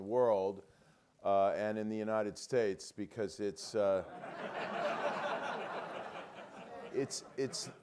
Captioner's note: laugh